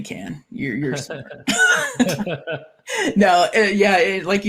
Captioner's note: both laughing